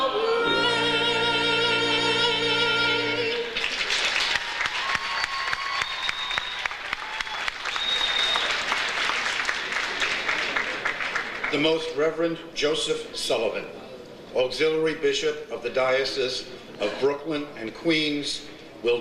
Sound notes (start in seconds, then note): 3.4 audience applauds; 3.5 audience cheers